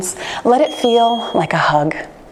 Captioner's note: bell dings